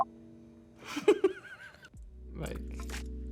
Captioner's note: girl laughs